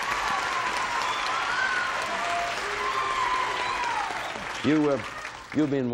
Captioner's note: audience applauding